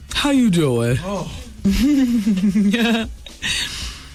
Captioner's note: laughter